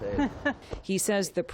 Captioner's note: laughter